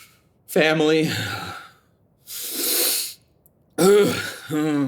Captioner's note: Jake sighs, deep breath in, clears his throat